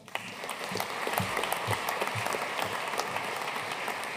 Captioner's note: audience applauding